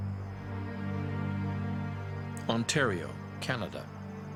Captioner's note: voiceover